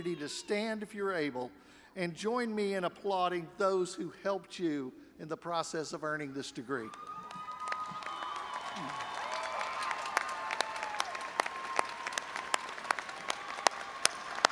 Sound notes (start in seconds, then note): 6.8 audience applauding and cheering